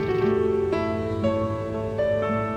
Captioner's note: insects chittering; bright music continues